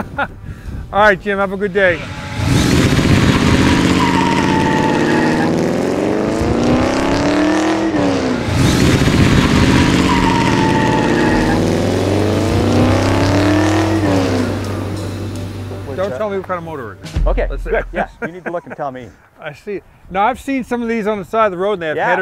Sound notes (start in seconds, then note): 2.7 engine roaring; 4.7 tires screeching